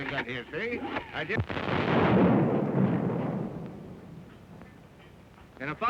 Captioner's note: explosion